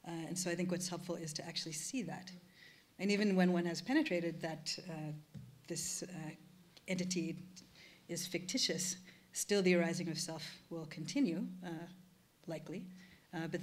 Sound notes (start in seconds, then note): none